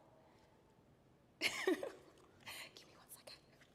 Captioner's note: chuckles